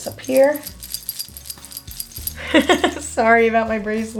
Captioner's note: bracelet jingling; laughs